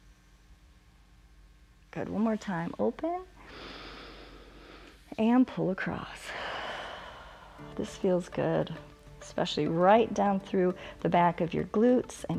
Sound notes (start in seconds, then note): 3.6 inhales; 6.2 exhales